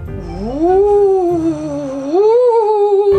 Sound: ghost Howling

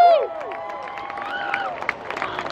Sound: cheers; crowd members cheer; crowd members clap

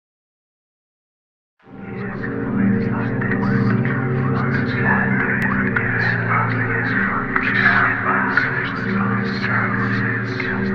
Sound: sound of trapped dimension

